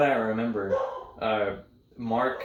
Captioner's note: barking